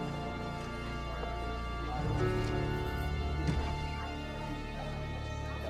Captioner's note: indistinct chatter